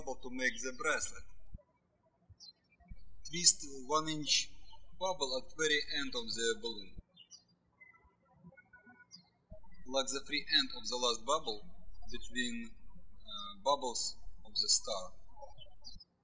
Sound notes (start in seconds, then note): 7.9 birds chirping